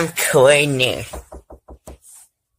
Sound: knocking

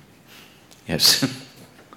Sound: laughs

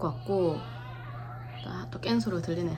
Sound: waaaah

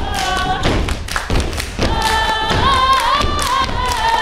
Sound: characters stomping; characters clapping

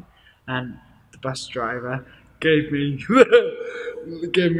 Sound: laughs

